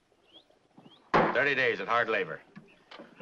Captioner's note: gavel bangs